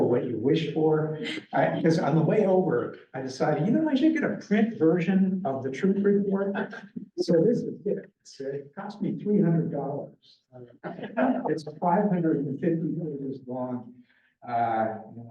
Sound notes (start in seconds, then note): 9.6 laughter